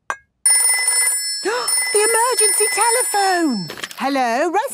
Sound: phone ringing, gasp

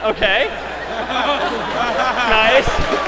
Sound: laughter; applause

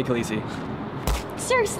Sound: smacks

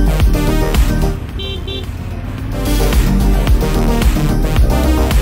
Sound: horn beeping

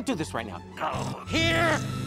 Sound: electricity buzzing

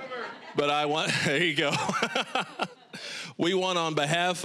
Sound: all laughing; laughing

